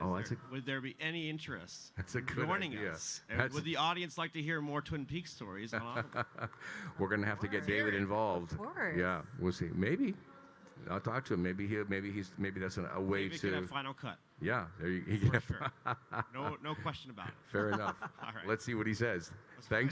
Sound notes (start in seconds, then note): 5.8 Kyle laughing; 15.1 Kyle laughing; 17.6 laughing